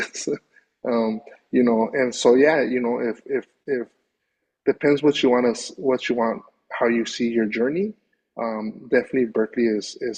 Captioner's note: chuckles